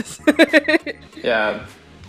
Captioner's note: laughs